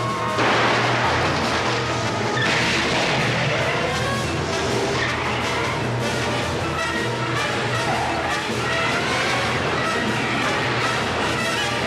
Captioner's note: gunshots